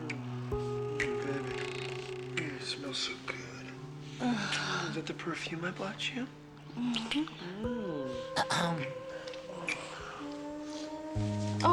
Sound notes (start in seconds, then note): 5.6 woman moans